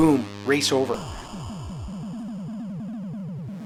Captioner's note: explosion